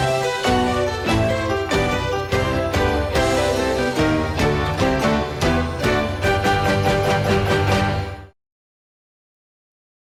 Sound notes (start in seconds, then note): none